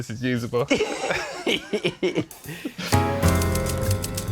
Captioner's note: laughing